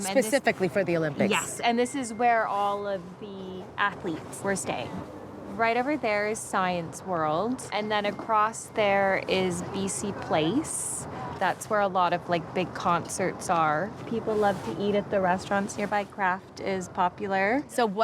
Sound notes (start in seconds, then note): none